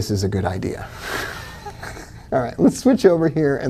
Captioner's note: giggling